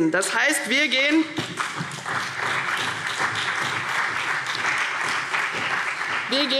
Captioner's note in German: Beifall CDU und BÜNDNIS 90/DIE GRÜNEN